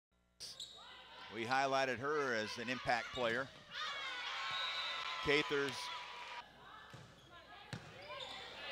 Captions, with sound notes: - [Voiceover] We highlighted her as an impact player. (cheers) Cather's.